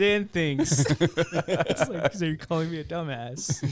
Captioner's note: laughing